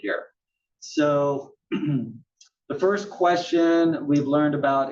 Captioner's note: cough